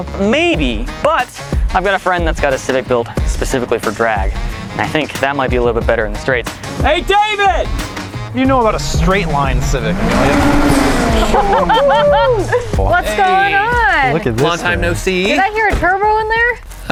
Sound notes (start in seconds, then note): 10.4 engine roaring; 11.0 laughing